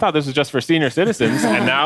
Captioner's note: person chuckles